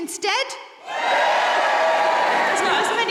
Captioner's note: audience cheering